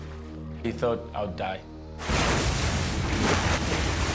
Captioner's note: waves crashing violently